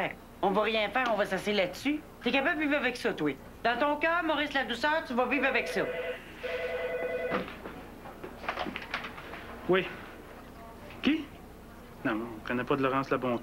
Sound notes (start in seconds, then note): 7.0 Le téléphone sonne